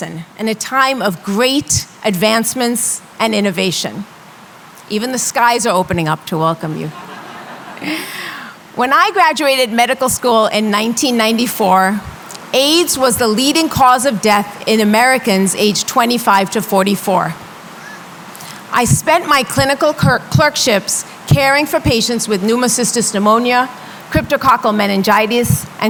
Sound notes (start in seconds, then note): 6.9 laughter